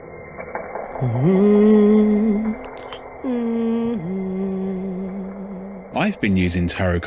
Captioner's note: humming restarts